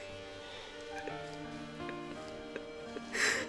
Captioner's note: sobs